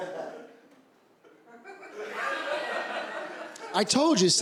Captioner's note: laughter